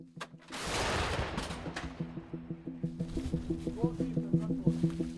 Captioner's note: loud gunfire bangs